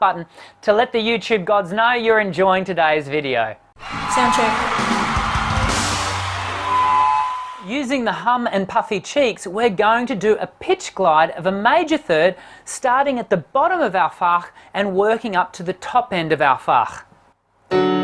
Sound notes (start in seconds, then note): 3.9 applause; 17.7 piano